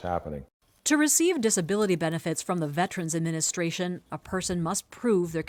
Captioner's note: voice-over